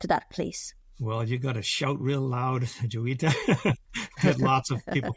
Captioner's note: laughs